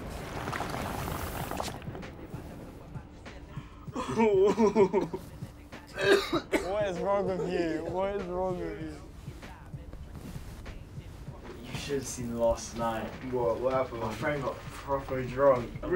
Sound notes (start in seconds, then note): 0.0 water bubbling; 3.9 boy coughing